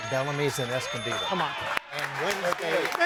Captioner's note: audience cheering